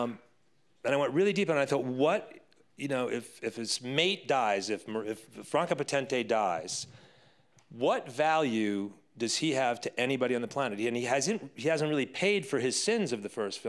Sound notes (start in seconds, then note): none